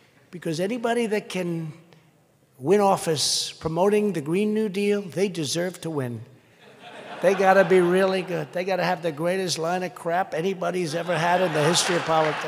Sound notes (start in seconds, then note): 6.6 laughter